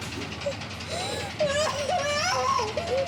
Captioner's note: Abby sobs